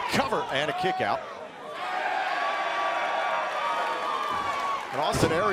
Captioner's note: crowd cheering